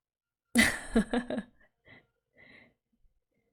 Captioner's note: laughs